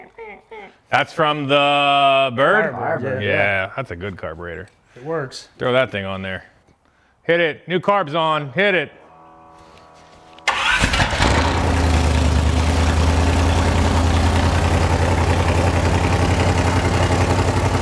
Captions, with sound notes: That's from the bird? - Firebird. - Firebird. - Yeah. That's a good carburetor. - It works. - Throw that thing on there. Hit it. New carbs on. Hit it. (machine whirring) (engine revving)